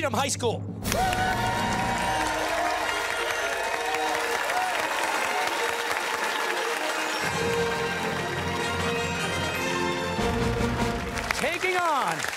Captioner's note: cheers and applause